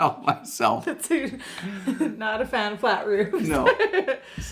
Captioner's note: laughs